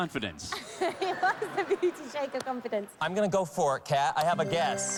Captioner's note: laughs